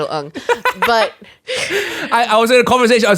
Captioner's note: laughing